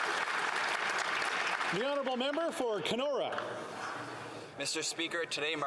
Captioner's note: some Applause